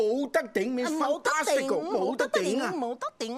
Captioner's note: speaking Chinese